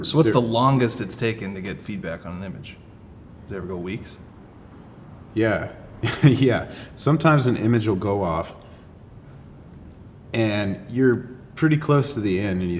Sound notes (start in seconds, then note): 5.9 laughs